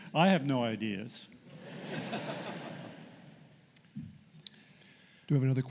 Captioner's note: laughter